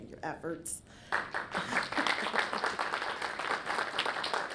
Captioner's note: audience clapping